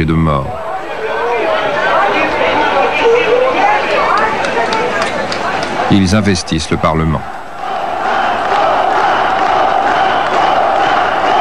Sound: applause

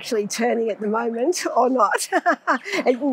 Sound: laughs

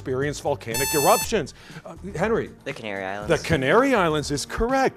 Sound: buzzer

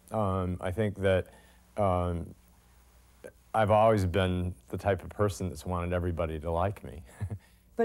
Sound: laughter

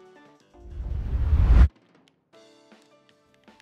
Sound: video game noise

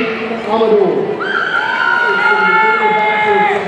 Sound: audience cheering

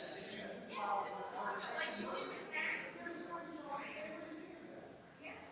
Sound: people chattering distantly continues

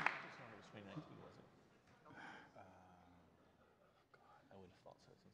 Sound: speaking faintly

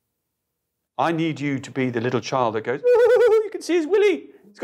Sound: giggles

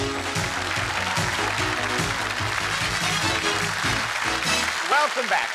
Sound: cheers and applause

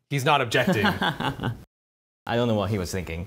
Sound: laughing

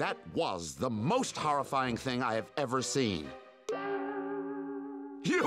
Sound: none

